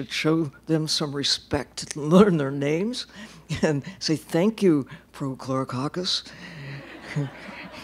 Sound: laughter

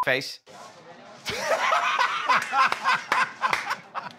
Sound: laughter

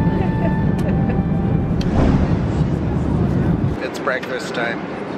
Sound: laughs

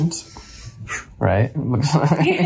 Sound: laughs

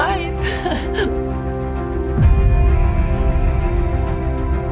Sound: sobbing; dramatic uplifting music

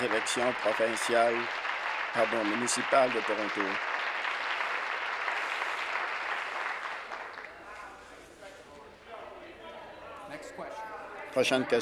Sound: applause

